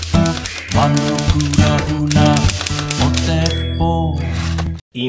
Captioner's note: typewriter sound